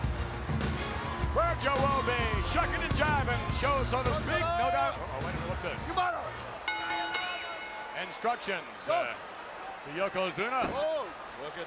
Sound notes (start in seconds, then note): 0.0 upbeat music continues; 4.5 Mr. Fuji speaks Japanese; 6.6 bell rings